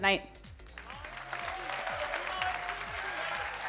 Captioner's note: audience applauding